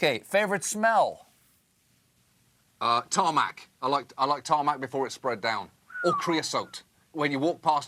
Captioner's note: russian accent